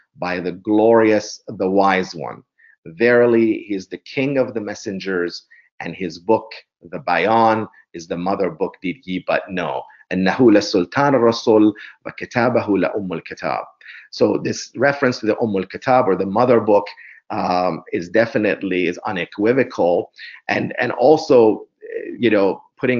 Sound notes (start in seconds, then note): 10.8 arabic words